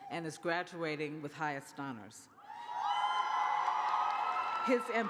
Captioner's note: cheers